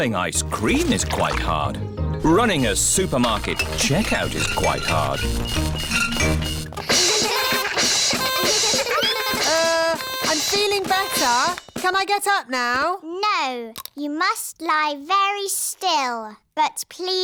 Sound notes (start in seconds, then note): 6.0 items clinking; 6.8 all laugh